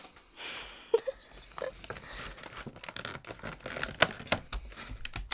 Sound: giggling

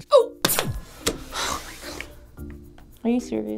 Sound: hitting button; exasperated sigh

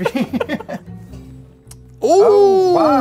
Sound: both laugh

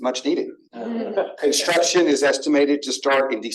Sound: laughter

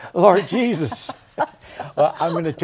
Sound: laughter

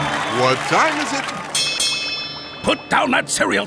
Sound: bell ringing

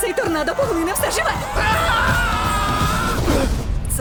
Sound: screams, grunts

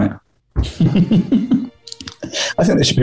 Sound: giggling

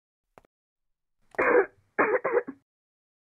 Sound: cough

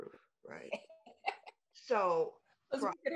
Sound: laughs

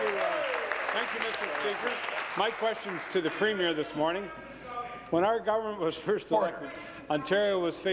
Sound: applause and cheering

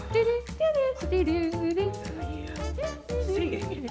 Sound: Red hums

